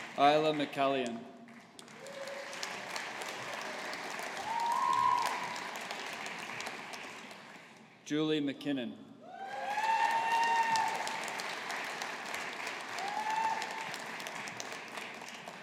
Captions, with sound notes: Isla McCallion. (AUDIENCE APPLAUDING) Julie McKinnon. (AUDIENCE APPLAUDING)